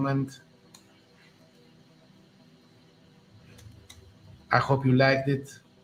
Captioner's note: keyboard typing